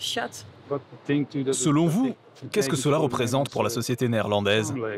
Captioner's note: Dutch spoken audio